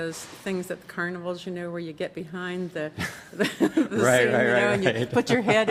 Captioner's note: laughing